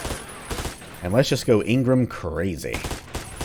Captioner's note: MAC-10 continues going crazy